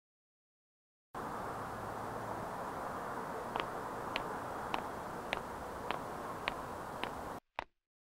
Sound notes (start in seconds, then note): 2.4 distant footsteps